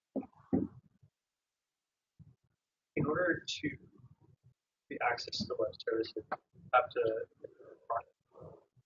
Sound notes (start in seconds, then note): 3.3 man speaks through warped and choppy audio